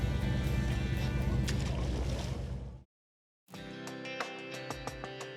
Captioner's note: water splashes